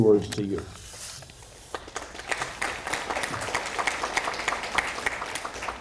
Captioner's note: audience applauding